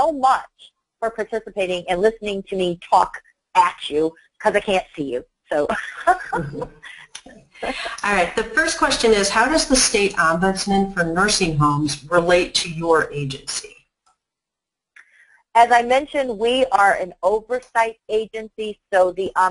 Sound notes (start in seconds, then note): 5.7 laughs